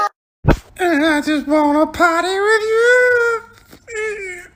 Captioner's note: dumb little voice